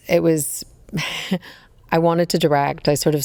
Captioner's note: laughs